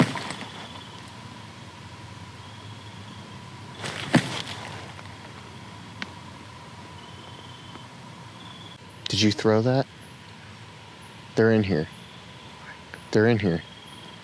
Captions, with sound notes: (object thumping) (crickets chirping) Did you throw that? They're in here. - What? - They're in here.